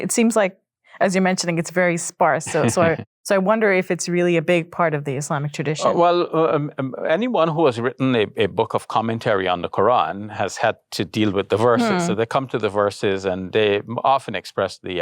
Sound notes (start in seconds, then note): 2.4 chuckles